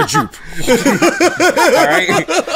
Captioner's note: laughter